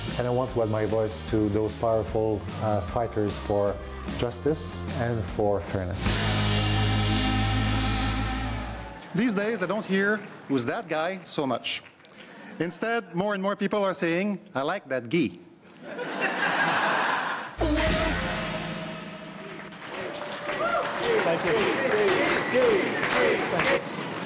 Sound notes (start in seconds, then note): 9.7 crowd cheering and applauding; 13.0 crowd chuckles; 17.6 crowd laughs; 21.3 chanting